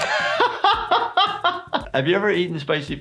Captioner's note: laughs